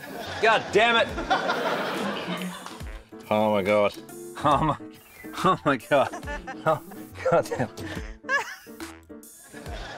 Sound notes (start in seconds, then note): 6.0 laughs